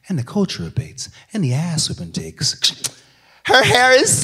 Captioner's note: channel change noise